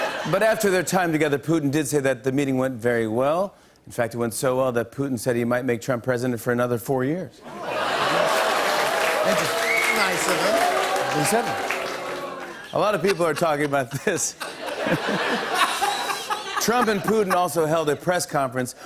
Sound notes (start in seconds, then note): 0.1 normal voice; 7.5 laughter and applause; 14.5 laughter